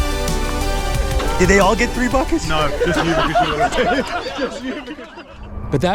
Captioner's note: laughing